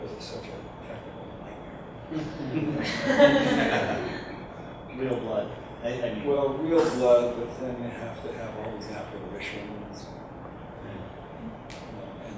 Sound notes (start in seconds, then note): 2.0 audience laughs